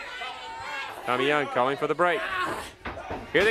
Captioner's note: crowd cheers